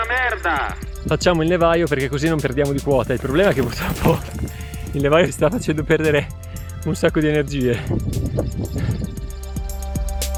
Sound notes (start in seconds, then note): none